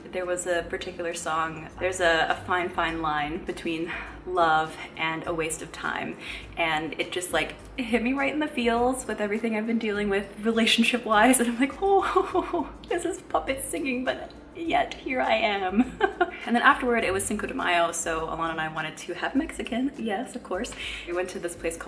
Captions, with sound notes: There was a particular song, "There's a fine, fine line between love and a waste of time," and it just like, it hit me right in the feels with everything I've been dealing with relationship-wise. And I'm like oh ho ho ho, this is puppets singing, but yet, here I am. (laughing) And then afterward it was Cinco de Mayo, so Alanna and I wanted to have Mexican, yes, of course, and we went to this place